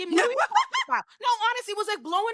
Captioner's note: laughing